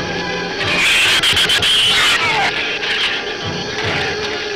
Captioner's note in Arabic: صراخ الزبابة